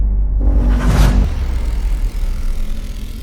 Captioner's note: zapping